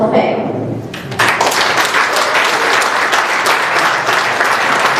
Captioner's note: applause